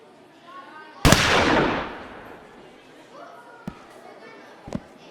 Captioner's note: gunshot firing